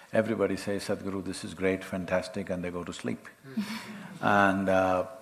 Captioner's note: laughs